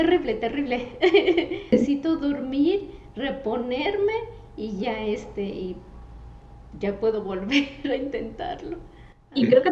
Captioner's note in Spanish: ríe